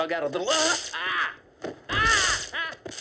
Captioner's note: cattle prod buzzes